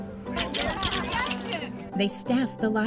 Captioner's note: cheering